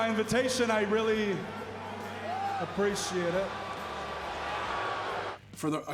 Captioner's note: crowd murmuring